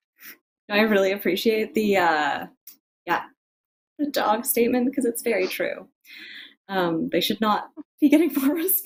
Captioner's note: laughing